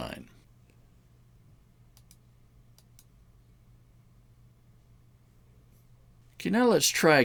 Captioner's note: mouse clicking